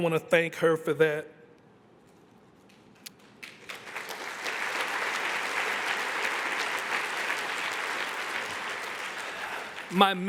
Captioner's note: applause